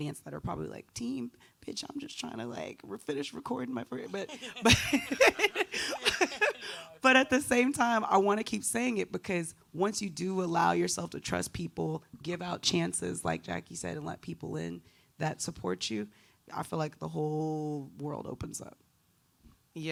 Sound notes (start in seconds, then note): 4.1 all laughing